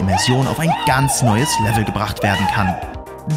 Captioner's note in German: Er schreit